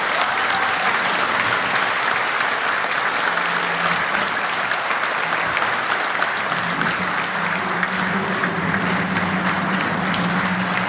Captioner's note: applause